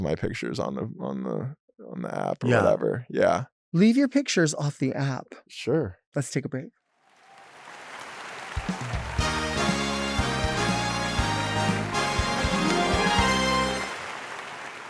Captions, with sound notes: my pictures on the app or whatever. - Yeah. - Yeah. - Leave your pictures off the app. - Sure. - Let's take a break. (audience clapping) (upbeat bright music)